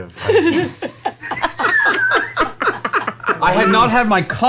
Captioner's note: all laugh